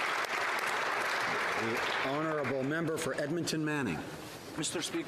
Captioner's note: applause